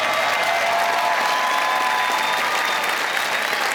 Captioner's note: applause